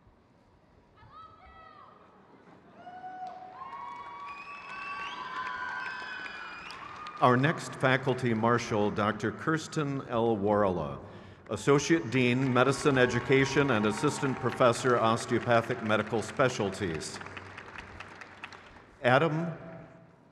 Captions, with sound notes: Jacquelyn Alexis Andrews. (crowd cheers) Grace E. Allen. (crowd claps)